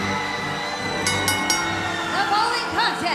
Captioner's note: bell ringing